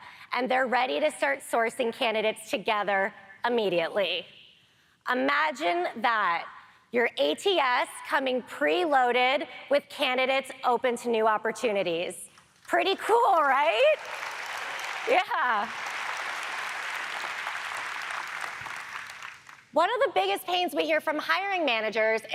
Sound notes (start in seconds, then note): 13.4 audience applaud